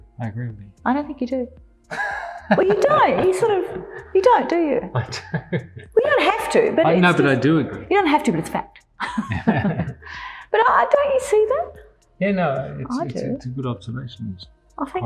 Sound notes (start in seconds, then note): 1.9 laughs; 4.9 laughing; 9.0 both laugh